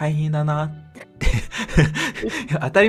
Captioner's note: laughs